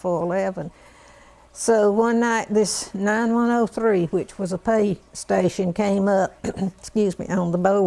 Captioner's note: cough